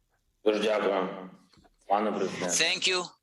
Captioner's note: speaking in foreign language